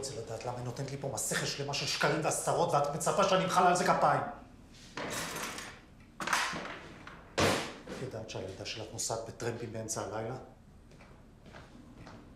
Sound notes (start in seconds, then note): 5.0 items clanking